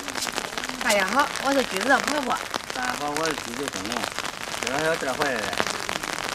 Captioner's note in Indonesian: Mandarin